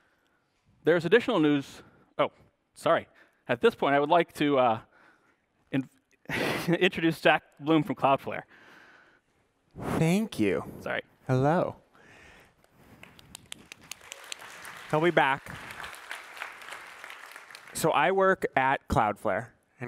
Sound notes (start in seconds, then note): 12.9 applause